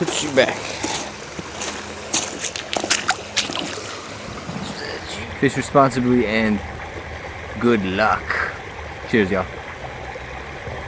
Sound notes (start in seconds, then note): 2.7 footsteps in water